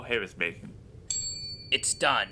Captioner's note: ding